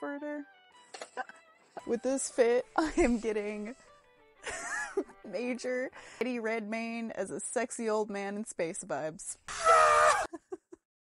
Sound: old Man Screaming

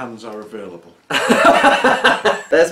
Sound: laughter

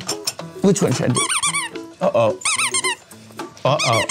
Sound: dog toy squeaking

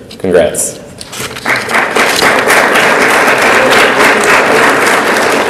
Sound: audience applauds

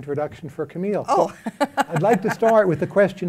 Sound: laughs

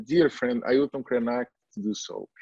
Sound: foreign language

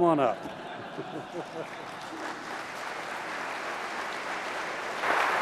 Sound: applause

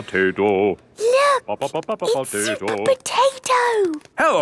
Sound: hushed

